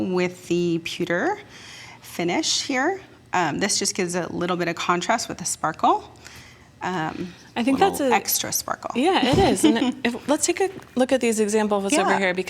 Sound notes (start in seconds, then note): 9.2 laughs